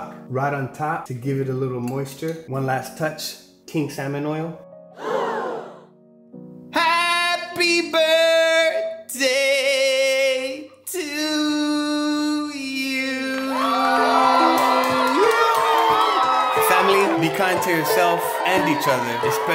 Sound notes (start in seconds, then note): 4.6 gasping; 14.2 applauding